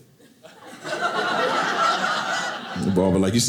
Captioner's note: audience laughing